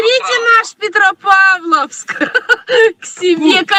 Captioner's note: Russian language